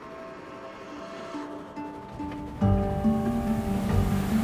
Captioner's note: train whistle blowing